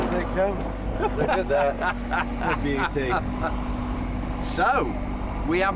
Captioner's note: laughing